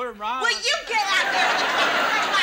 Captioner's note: audience laughs